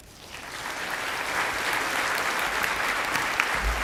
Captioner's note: audience clapping